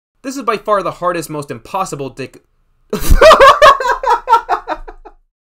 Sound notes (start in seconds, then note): 2.9 laughs in realization of his Freudian Slip take